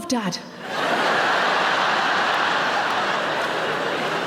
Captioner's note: audience laughs